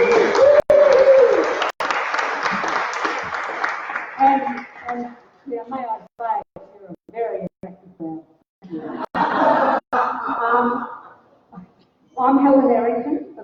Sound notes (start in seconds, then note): 0.0 applause; 8.7 laughter